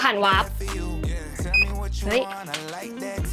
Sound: beep

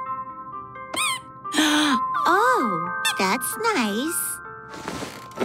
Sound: toy squeaking; gasping

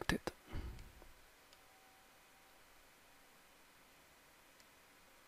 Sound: mouse clicking

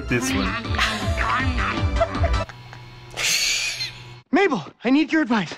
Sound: laughs; chuckles

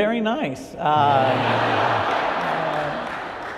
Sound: audience laughter

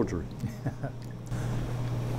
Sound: laughs

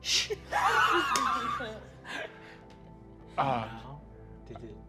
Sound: laughing

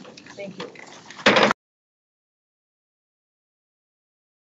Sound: gavel taps

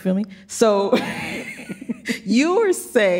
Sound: laughs

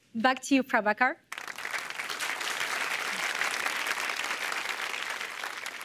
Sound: applause

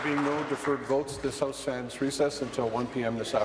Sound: applause

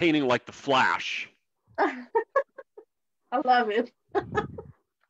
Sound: laughs

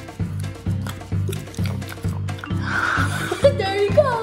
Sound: crunching

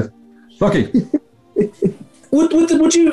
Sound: chuckling

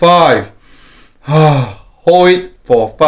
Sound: inhale and exhales

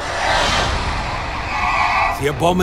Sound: air Whooshing

